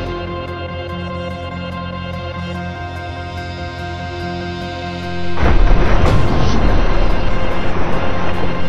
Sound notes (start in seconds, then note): 5.4 gunfire